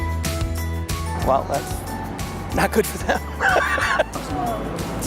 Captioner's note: laughs